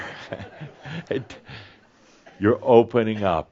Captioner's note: some laughter